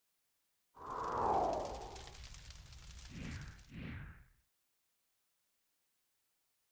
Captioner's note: sound of fire burning